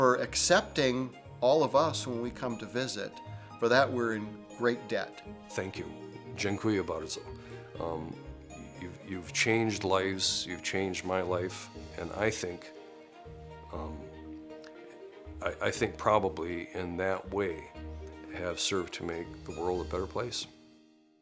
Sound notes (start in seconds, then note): 6.3 speaks polish